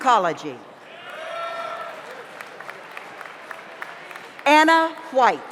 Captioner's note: audience cheers; audience applauds